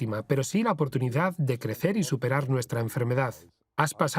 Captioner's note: voiceover